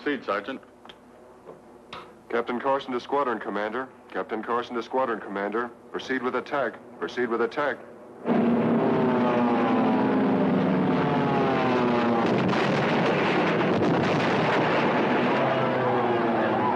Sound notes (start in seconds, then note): 9.2 plane engines roaring; 13.5 explosions booming